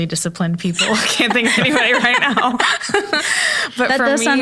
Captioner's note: laughs